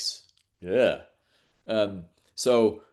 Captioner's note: gasps